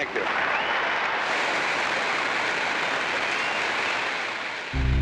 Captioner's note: crowd cheering